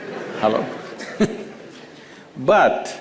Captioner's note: laughter; laughs